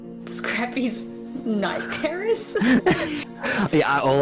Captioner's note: nervous laughter